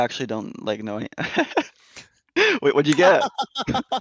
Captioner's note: laughs